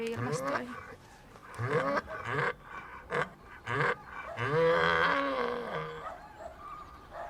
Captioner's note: braying; barking